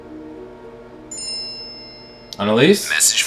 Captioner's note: text message ding